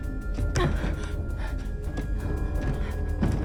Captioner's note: Bryn huffing